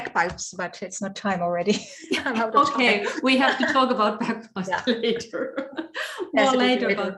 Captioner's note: laughs